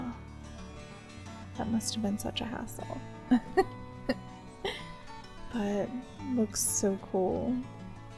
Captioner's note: giggle